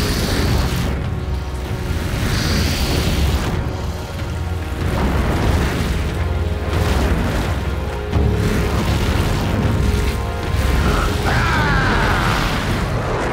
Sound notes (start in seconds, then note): 10.8 screaming